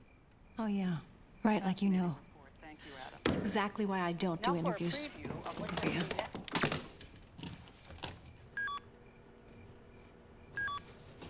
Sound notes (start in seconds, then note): 4.8 mumbles; 6.0 tv switches off; 8.6 beeping